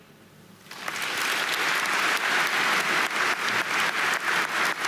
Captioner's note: audience applauding